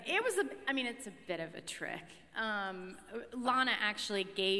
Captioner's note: none